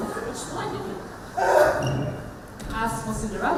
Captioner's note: screams in pain